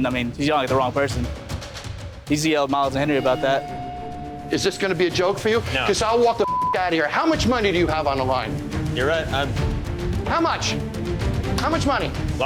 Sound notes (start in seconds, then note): 6.4 beep